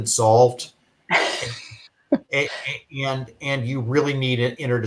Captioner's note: laughs